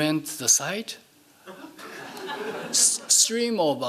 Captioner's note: laughing